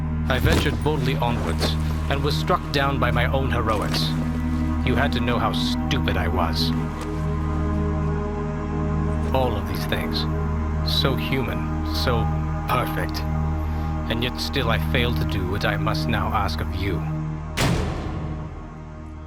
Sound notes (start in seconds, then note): 17.5 clang